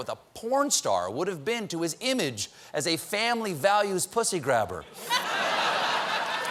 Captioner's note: laughter